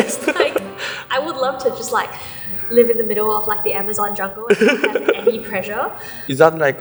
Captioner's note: laughs; laughs